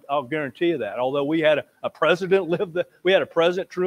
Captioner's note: laughs